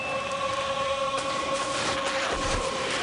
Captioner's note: crowd chanting